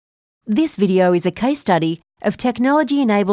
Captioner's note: voiceover